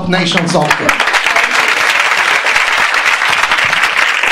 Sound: clapping

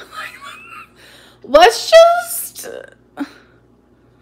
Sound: laughs

